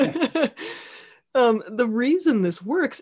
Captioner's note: laughing